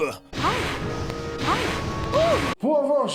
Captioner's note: moans